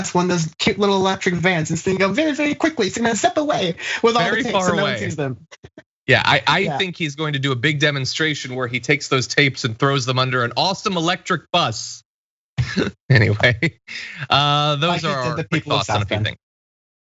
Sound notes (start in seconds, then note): 12.6 laugh